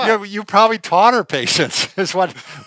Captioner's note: laughter